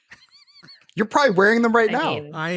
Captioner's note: laughs